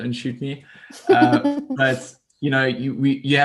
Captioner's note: laughs